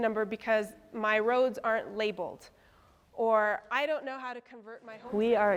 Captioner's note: none